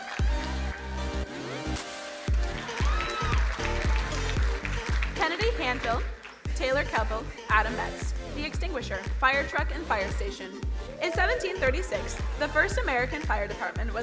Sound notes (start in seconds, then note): 0.1 soft electronic music; 2.8 crowd cheering and applauding